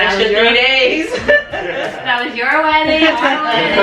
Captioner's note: laughter